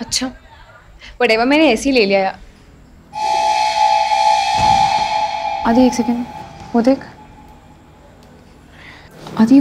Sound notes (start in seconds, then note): 3.6 door closes